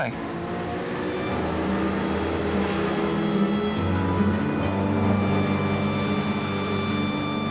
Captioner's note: engine humming; contemplative music